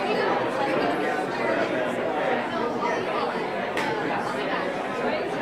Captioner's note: none